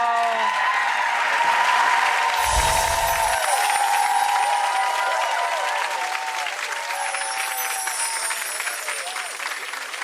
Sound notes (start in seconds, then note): 0.0 clapping; 0.3 cheering; 2.4 soft magical bells; 3.3 clapping; 6.9 soft magical bells